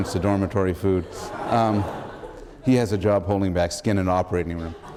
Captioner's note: laughter